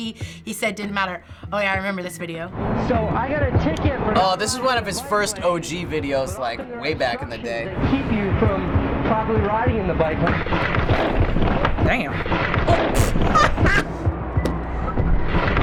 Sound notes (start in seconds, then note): 10.9 barriers clatter; 12.7 laughs